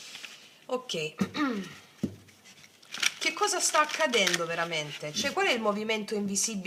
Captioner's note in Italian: schiarire la voce